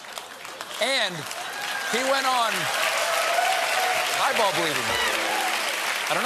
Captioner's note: cheers and applause